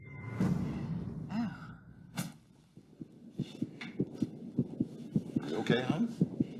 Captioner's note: heart beats